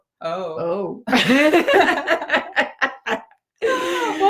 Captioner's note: both laugh